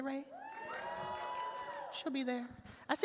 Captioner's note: attendees cheer